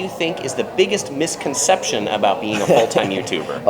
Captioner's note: laughs